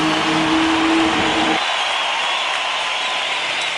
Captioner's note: applause